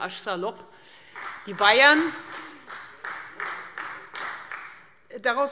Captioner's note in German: Beifall Freie Demokraten